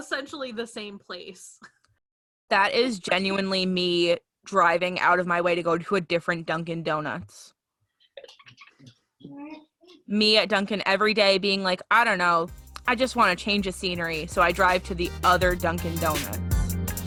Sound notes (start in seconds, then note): 5.4 laughter